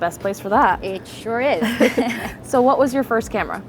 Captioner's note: both laugh